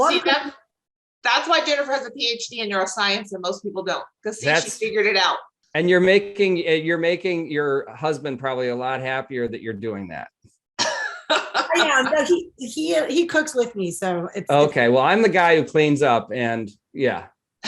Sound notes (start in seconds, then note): 10.8 laughs